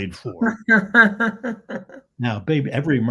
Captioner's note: laughs